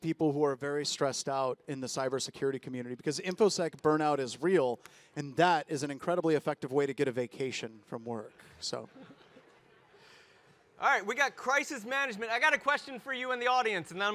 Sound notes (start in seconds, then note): 8.7 audience laugh